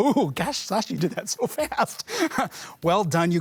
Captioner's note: laughs